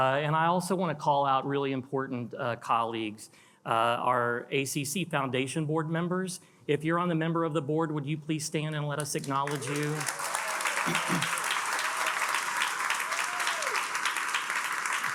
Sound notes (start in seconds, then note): 9.4 attendees cheering and applauding